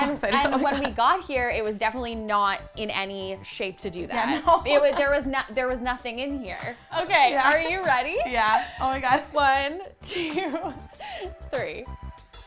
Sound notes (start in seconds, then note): 4.2 laughs